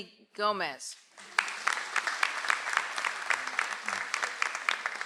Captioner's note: audience applauds